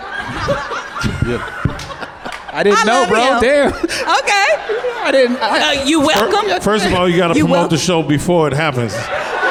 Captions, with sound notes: (audience laughs) - I didn't know bro. Damn. - I love y'all. OK - I didn't. - You welcome. - First of all, you gotta promote the show before it happens.